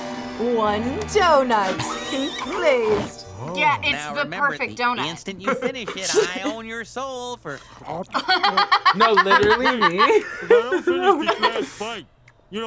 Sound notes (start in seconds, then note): 7.8 laughs